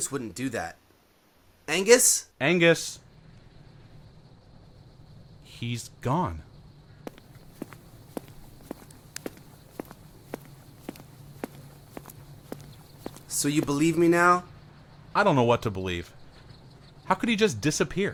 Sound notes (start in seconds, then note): 8.7 footsteps